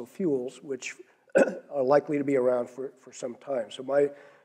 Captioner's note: cough